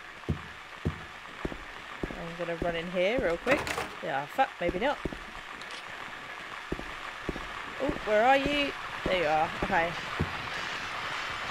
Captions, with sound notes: I'm gonna run in here real quick. Ah fuck maybe not! [Radio static getting louder] Oof where are you? There you are. Okay.